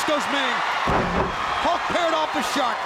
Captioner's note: body slamming